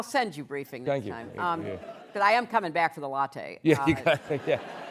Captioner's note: laughter